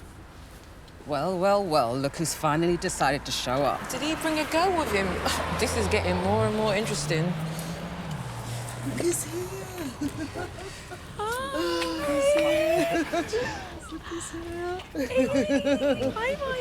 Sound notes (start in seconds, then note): 9.9 Evelyn chuckling; 14.6 Evelyn laughing